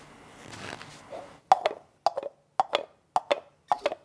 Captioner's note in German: Klingt wie Pferde-Getrappel